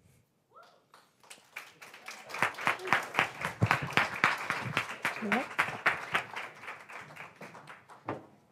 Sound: applause

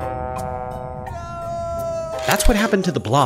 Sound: moaning

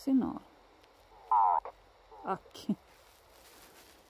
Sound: expression of grief

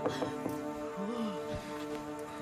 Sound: knocking on door; Ester shudders

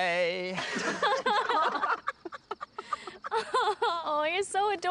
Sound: laughter

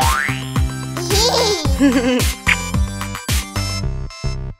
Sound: boing; giggle

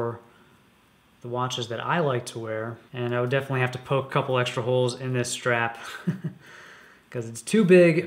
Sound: chuckles

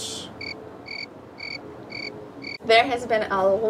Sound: crickets chirping

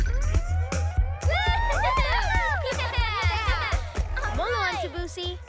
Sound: lively music; cheering and laughter

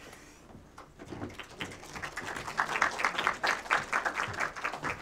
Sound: applause

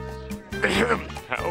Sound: coughing

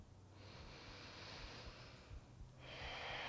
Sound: deep breath

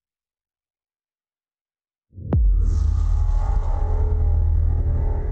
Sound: transition sound

